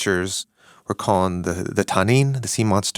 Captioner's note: speaking in foreign language